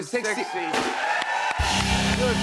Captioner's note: cheers and applause